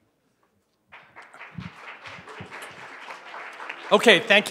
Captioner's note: applause